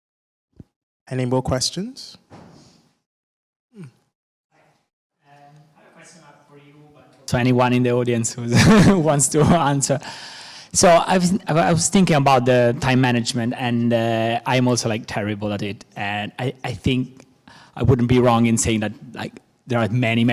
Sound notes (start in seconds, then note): 8.5 chuckles